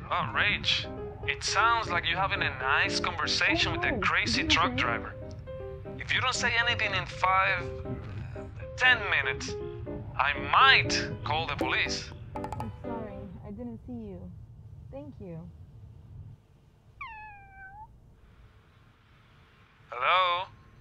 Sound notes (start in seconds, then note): 12.9 Rachel muffled; 16.9 cat's meow